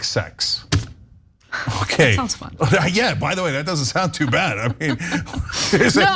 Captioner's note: laugh